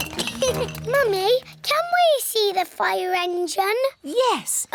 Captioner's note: laughs; giggles; all laugh